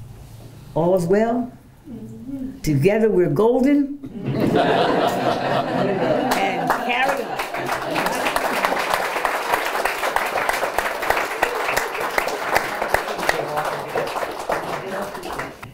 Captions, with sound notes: all is well together we're golden *crowd laughs* and carry on *applause*